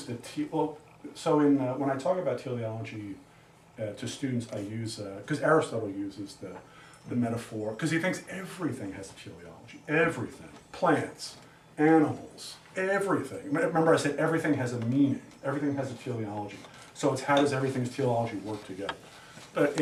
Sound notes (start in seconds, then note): none